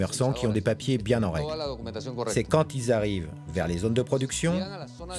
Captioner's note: Spanish spoken audio